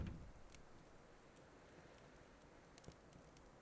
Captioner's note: A fire crackling to life, illuminating the dark room